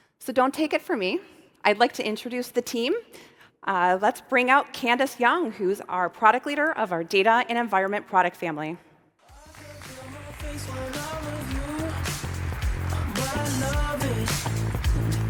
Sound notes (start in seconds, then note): 9.3 upbeat music; 9.3 audience applauds